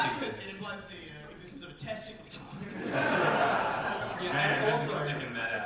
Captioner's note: audience reaction